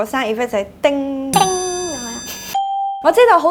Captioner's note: ding